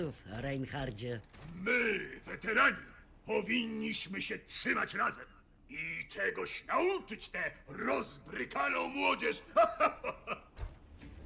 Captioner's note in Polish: śmiech